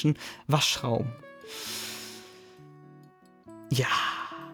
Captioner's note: Tiefer Einatmer